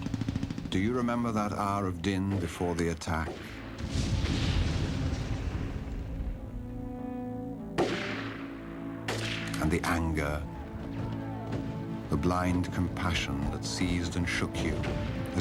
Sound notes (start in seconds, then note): 3.3 explosions; 7.7 popping Guns